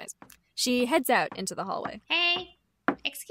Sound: fish’s high heels clack

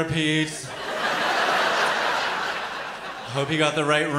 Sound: laughter

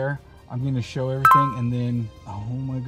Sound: phone beeps

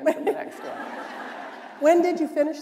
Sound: laughter

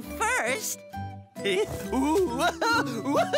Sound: laughing, rolling efforts

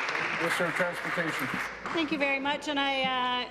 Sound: applause

